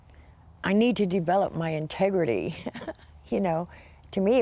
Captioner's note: laughing